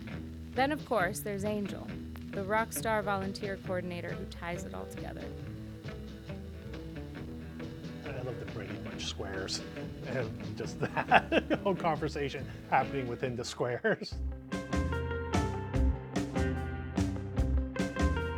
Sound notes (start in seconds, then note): 14.2 chuckles; 14.2 upbeat music